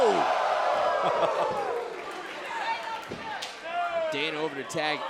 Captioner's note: crowd cheering